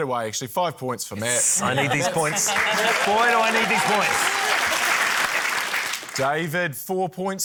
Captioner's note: applause